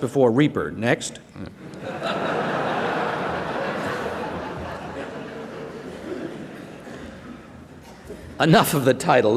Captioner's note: laughter